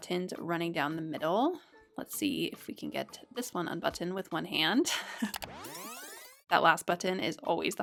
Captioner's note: fast forward sound